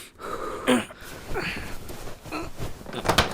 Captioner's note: grunts in pain